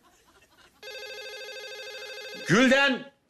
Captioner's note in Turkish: Telefon zili sesi